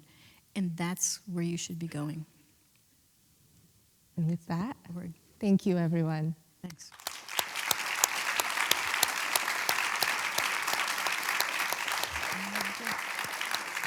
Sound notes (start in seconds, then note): 6.8 applause